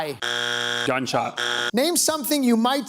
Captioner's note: bzzzt; bzzzzt